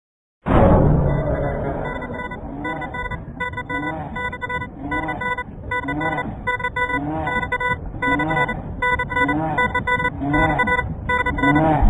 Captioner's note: Supernatural Killer Closeup Sound